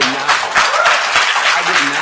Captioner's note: attendees applauding